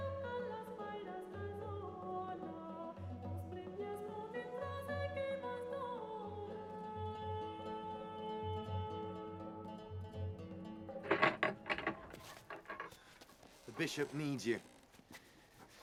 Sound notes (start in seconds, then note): 11.0 door opening